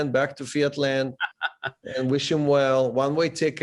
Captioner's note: laughs